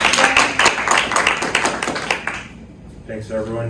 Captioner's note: applause